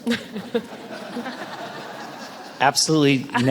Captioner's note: audience laughs